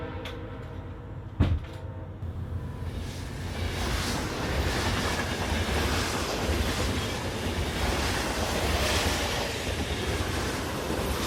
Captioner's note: trains moving along tracks